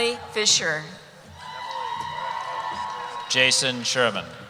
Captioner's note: cheering